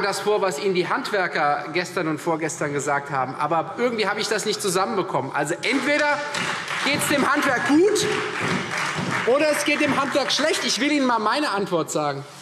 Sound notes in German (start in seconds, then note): 9.7 Beifall Freie Demokraten und vereinzelt SPD